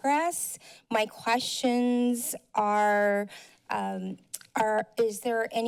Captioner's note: mouth click